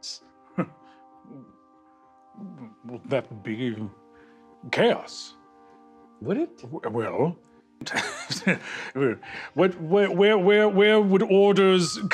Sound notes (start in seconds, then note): 0.2 small, shocked laugh; 7.8 Hob laughs; 8.5 through laughter